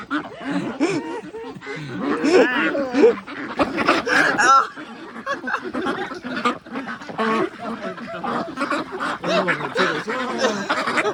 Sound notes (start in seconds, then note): 3.4 laughing